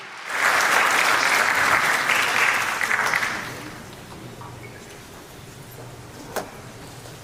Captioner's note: applause